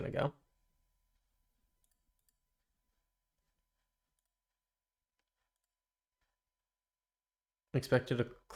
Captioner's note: silence